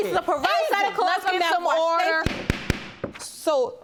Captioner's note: banging gavel